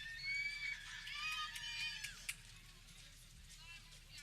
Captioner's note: people cheering